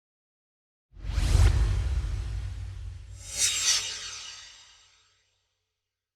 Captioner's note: swoosh